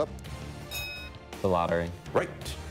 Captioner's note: bell rings